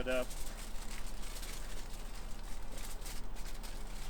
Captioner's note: tinfoil crinkles